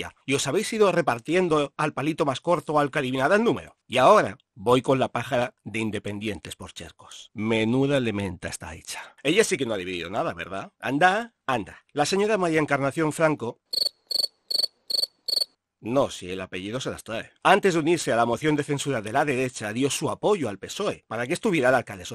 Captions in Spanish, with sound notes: y os habéis ido repartiendo al palito más corto o al que adivinara el número? Y, ahora, voy con la pájara de Independientes por Chercos. ¡Menuda elementa está hecha! Ella sí que no ha dividido nada, ¿verdad? Andaaaa, andaaaa… La señora María Encarnación Franco (sonido de grillos)… no, si el apellido se las trae… antes de unirse a la moción de censura de la derecha, dio su apoyo al PSOE para que estuviera el alcalde